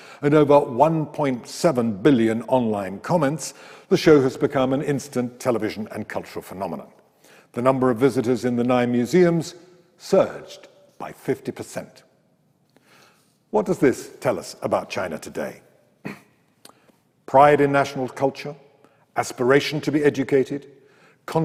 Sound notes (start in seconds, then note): 16.0 clears throat